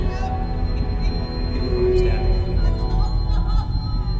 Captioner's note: Betty sobbing